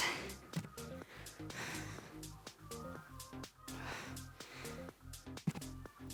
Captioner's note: panting; upbeat music